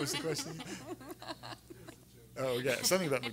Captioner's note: everyone laughing